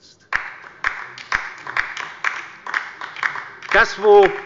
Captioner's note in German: Beifall bei der LINKEN